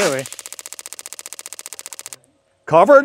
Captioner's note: board clanking